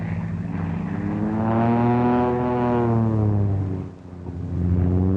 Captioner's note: whirring